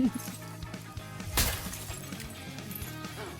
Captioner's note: wet bone crunch